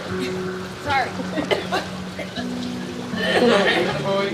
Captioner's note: coughing; film crew talking